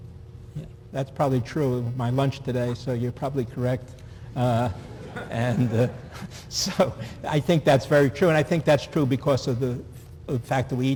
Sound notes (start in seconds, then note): 6.6 laughter